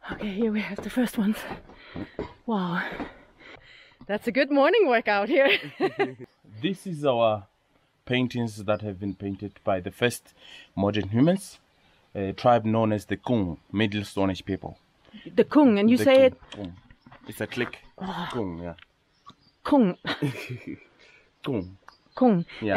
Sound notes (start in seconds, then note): 5.3 laughing; 17.6 click, click